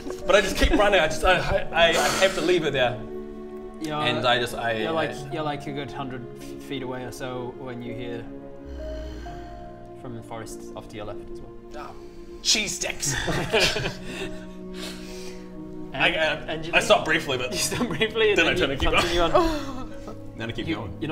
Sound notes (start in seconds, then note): 8.6 probably friendly growl; 13.1 laugh of a monster